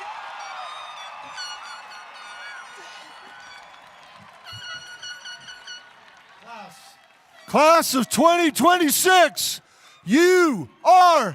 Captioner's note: cheering